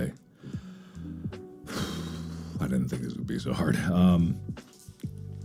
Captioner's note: exhale